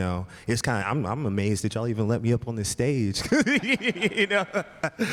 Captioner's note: laughs